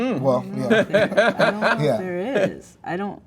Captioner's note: host laughing